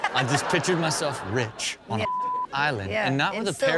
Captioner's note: audience laughs; beep